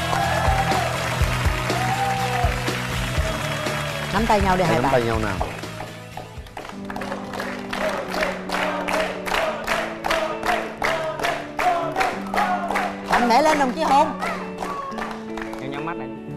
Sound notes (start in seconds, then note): 0.1 applause; 8.8 applause